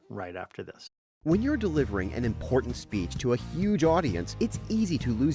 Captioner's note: voice-over